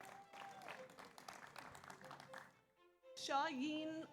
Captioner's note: audience cheers; audience applauds